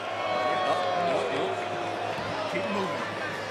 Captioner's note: crowd booing